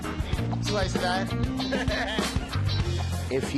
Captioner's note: laughs